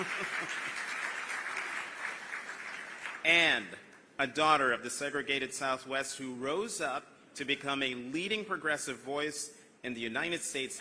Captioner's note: applause